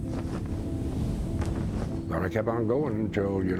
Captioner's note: sound of flag flapping